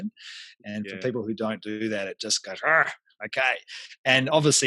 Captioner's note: grunts